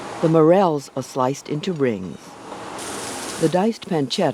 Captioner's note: voiceover